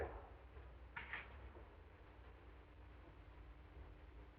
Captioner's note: knocking on door